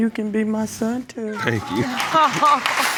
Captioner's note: judge lake chuckles